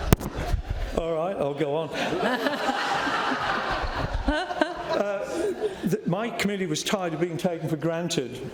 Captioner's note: laughter